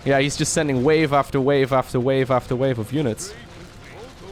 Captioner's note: none